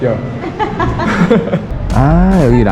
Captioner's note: both laughing